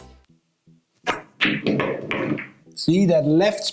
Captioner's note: pool balls clacking and thudding